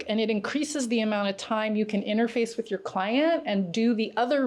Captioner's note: none